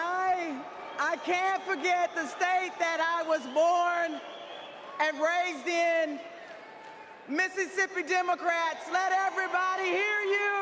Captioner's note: crowd chanting "laphonza"